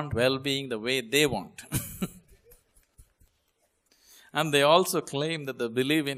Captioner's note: laughs